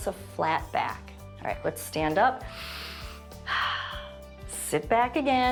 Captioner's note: inhales and exhales